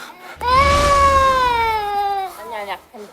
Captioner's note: waaaah